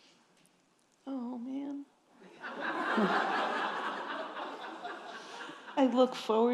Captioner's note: audience chuckling